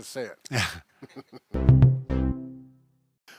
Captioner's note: both laughing; bright upbeat music